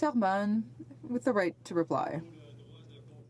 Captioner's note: speaking French